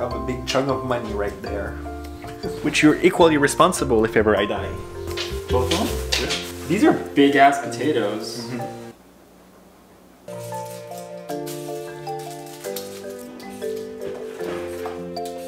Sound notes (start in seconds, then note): 4.5 squeaking; 10.2 rustling